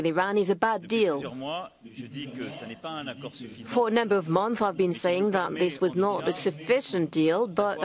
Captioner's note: speaking in french